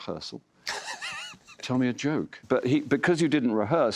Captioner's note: laughs